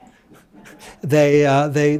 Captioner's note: laugh